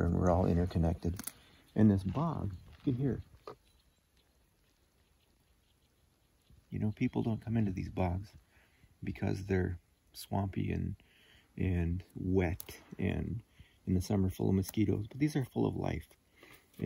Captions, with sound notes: and we're all interconnected. And this bog, you can hear. (birds chirping) You know, people don't come into these bogs because they're swampy and wet and in the summer full of mosquitoes, but these are full of life,